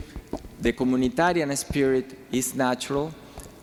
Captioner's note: speaking foreign language